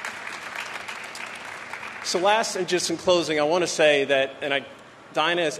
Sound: applause

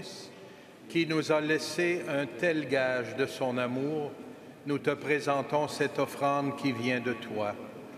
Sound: speaking French

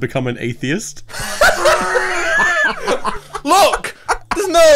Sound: all laughs

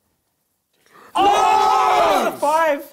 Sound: crowd shouting

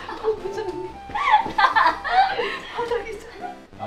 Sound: hollering

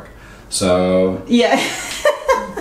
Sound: laughs

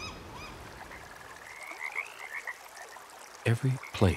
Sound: frogs croaking

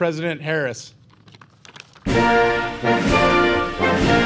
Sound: applause and Music

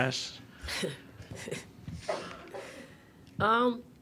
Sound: laughing

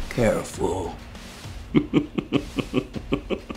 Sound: menacing laugh

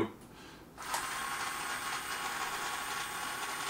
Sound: motor

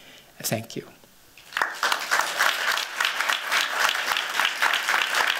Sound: applause

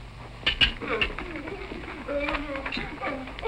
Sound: groaning

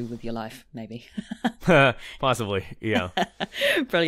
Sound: laughs

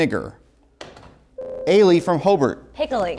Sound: buzzer

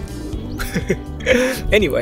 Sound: chuckles

